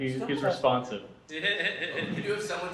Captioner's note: audience laughter